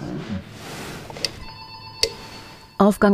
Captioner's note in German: Türklingel